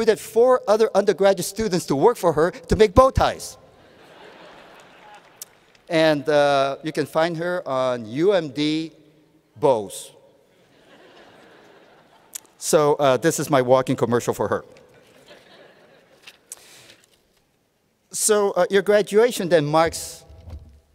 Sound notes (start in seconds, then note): 4.7 laughter